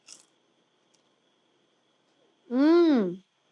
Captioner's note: chile crunches